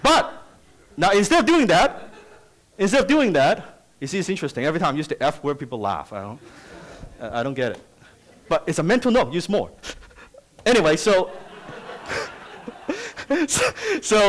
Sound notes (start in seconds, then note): 8.1 audience laughs; 11.2 laughter